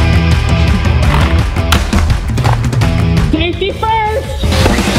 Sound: mask snaps

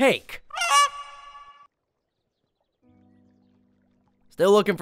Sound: goose squawks

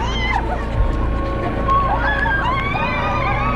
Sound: all laughing; all cheering

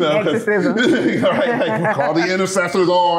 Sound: laughter

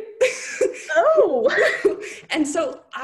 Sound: laughing

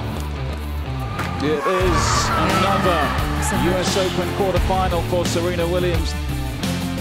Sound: screams

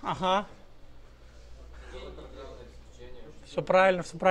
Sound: crowd

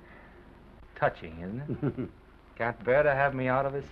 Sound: Oliver chuckles

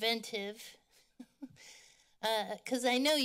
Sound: laughter

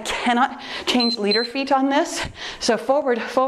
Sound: timer beeps

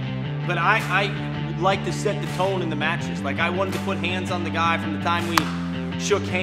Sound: clap

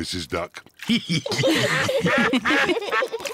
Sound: all laugh; ducks quack

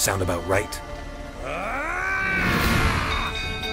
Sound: screams in anger

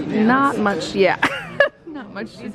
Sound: laughs

